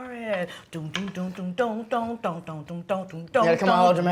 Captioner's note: humming